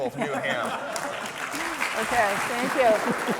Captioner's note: applause